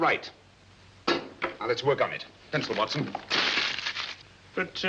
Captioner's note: paper crumpling